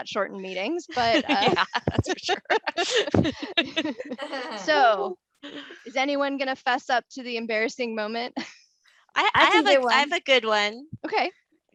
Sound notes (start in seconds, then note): 0.9 laughter